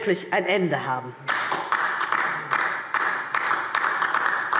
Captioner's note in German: Beifall DIE LINKE